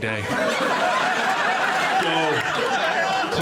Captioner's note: audience laughs